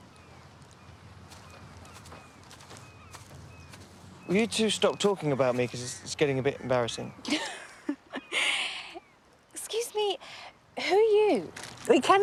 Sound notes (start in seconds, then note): 7.3 laughing